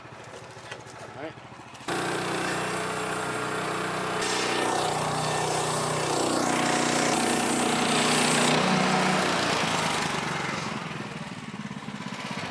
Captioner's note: motor running